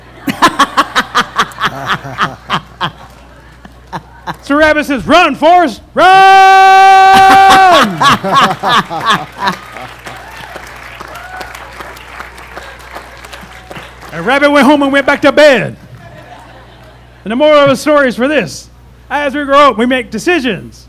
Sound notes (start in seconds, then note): 0.0 laughter; 7.1 laughter; 9.4 applause